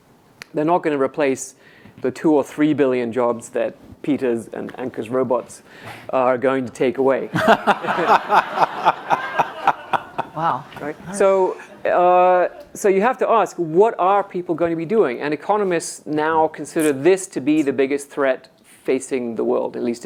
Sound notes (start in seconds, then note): 7.3 audience laughs